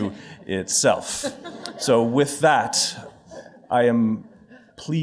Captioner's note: laughter